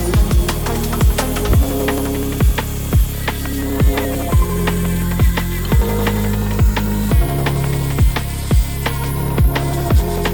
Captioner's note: longitudinal grinding